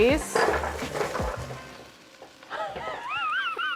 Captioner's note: laugh